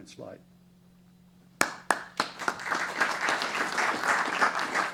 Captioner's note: applause